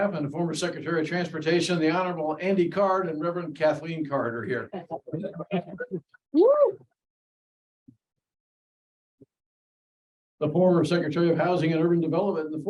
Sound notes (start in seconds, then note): 4.8 audience chuckling; 4.8 audience member cheering